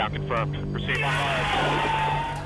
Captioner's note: cheering, applause